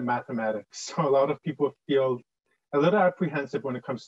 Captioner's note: chuckles